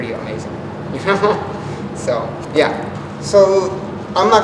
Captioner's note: laughs